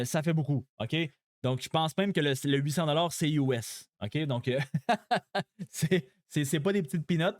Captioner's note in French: rires